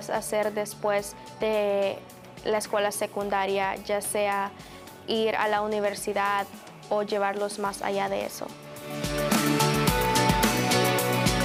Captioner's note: speaking spanish